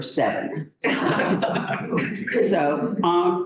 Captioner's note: laughter